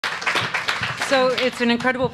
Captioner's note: audience applauds